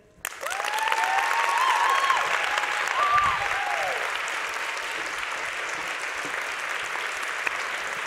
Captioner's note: applause